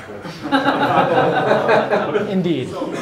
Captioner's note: crowd laughs